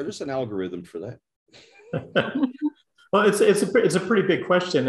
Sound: laugh

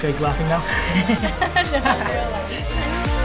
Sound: laughing

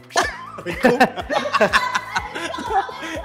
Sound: laughs

